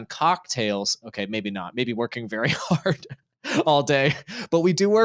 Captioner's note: laughing